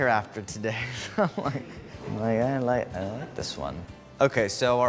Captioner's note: laughs